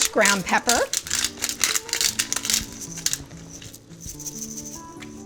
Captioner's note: pepper grinding